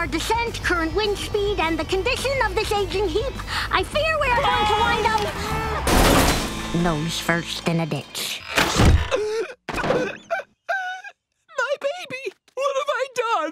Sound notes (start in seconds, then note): 4.3 screaming; 9.0 gasping, crying